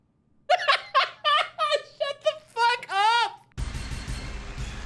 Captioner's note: laughing